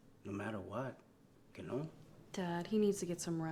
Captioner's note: Spanish